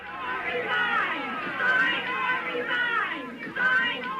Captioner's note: crowd chanting